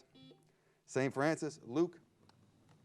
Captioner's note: buzzer beeps